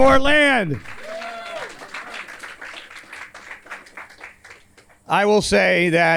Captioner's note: audience cheers and applauds